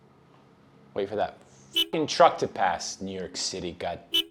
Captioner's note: car horn sound; car horn sound